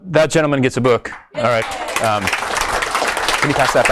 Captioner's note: audience applauds